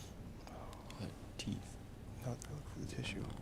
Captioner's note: whispering